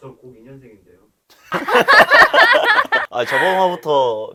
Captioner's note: laughing in disbelief